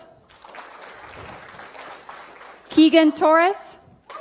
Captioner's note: applause